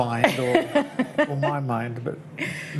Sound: laughing

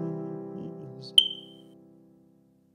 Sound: chirp

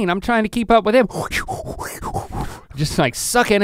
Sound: breathing erratically

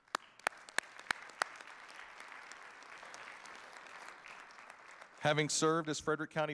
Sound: audience applauding

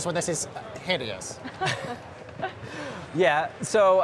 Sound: laughter

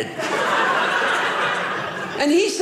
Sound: audience laughing

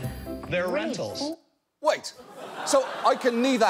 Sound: audience laughing

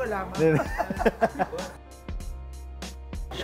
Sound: laughs

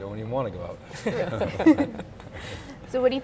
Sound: all laughing

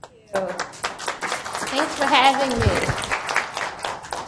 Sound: applauding

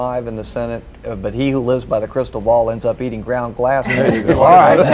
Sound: laughter

